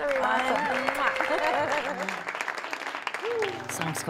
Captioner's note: blows kiss